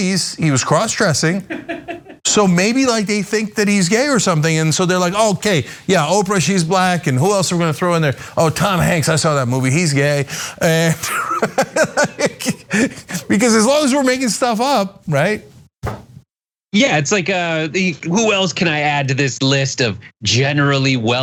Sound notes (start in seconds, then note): 1.3 laugh; 10.2 laugh